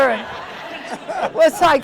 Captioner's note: crowd laughing